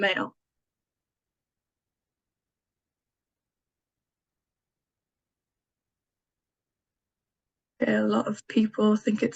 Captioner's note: silence